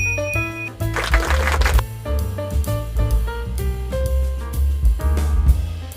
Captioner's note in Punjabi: ਤਾੜੀਆਂ